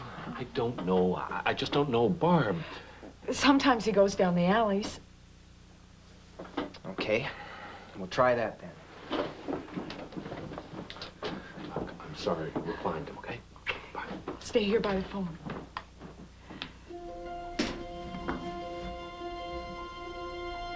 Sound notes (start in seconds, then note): 13.5 lips smack; 16.8 soft suspenseful music